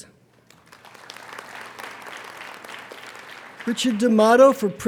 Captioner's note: applauding